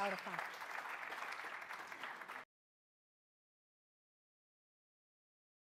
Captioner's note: applause